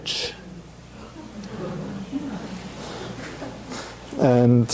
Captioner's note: audience chuckling at an image showing a rudimentary bridge